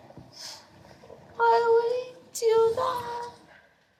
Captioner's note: tearfully